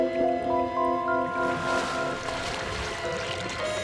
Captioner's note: mysterious music; water rippling